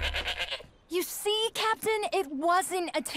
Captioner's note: bleating